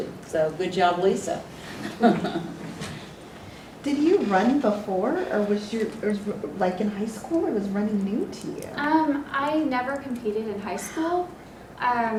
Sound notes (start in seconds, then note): 1.8 laugh